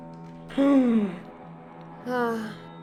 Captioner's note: sigh; gasp